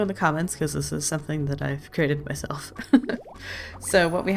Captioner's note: laughs